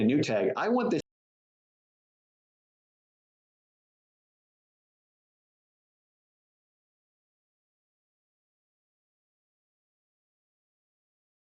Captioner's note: silence